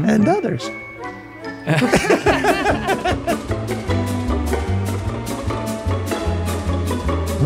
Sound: cheerful carefree music; all laughing

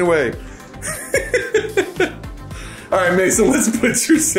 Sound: laughing

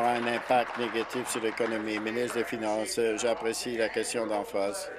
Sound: applause

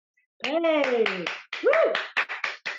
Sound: applause

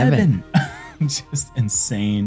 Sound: laughs

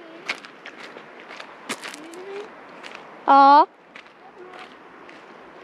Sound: mom calling at me

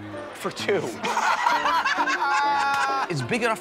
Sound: laughter

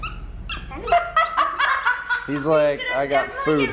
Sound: laughing

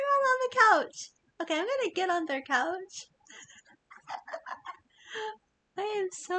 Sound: laughs

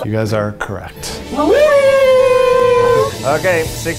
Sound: man cheering

